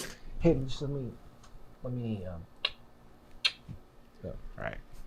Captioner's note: clicking tongue